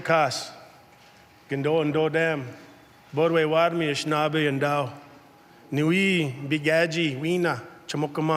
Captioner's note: speaks in native tongue